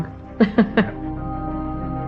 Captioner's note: chuckling; mysterious melody building